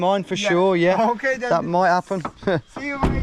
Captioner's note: laughs